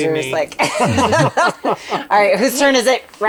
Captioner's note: laughs